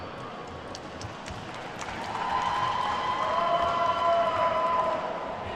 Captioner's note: attendees whooping and clapping